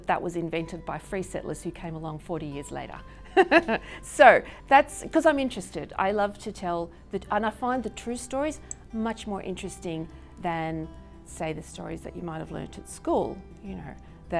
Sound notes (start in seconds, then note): 3.3 laughs